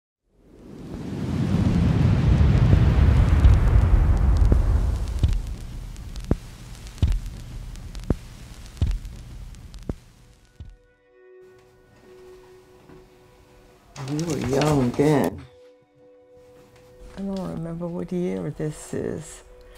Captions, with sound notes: (wind blowing) (somber music) - We were young, then. I don't remember what year this is.